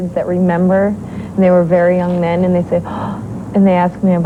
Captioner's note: gasp